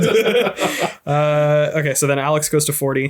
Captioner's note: laughs